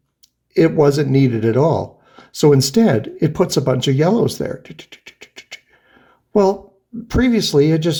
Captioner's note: ticking noises